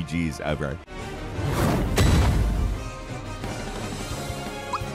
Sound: meteor whooshes and bangs; rousing orchestral music

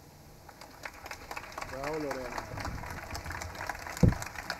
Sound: audience applauding

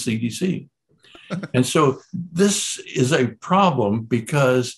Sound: laughs

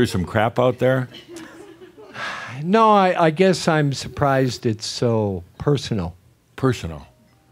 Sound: sighs

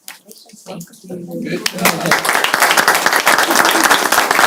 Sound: applause

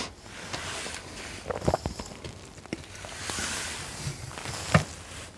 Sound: sounds of a bag of food

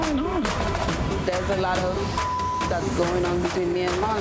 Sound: tense drumbeat; beep

